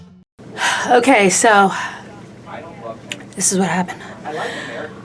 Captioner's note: sighing